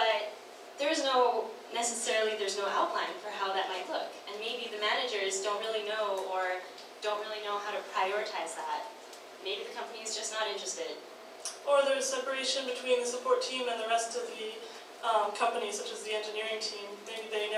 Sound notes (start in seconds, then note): none